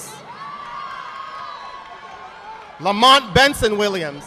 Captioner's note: audience applauding